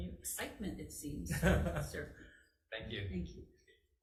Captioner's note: chuckling